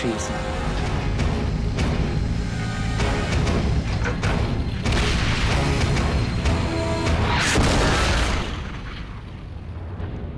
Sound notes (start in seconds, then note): 0.3 tank engine whirring; 4.8 tank turret firing; 7.5 tank exploding